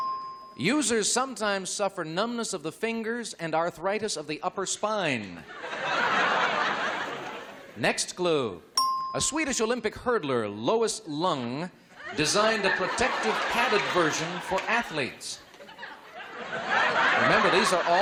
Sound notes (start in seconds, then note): 0.0 ding; 5.4 laughter; 8.7 ding; 15.4 laughter